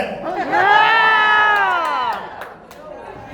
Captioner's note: crowd Cheers